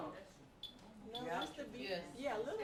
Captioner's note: students talking